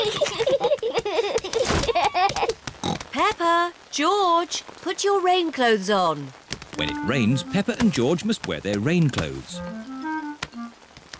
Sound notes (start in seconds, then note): 0.0 both giggling; 2.9 oinks